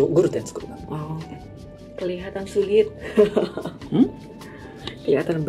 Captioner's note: laughs